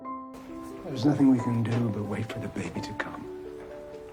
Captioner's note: voiceover